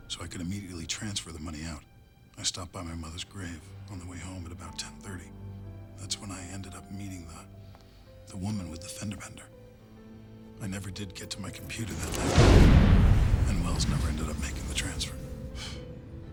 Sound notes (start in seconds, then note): 11.6 car explodes; 16.1 sighs